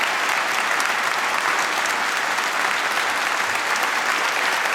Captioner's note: applause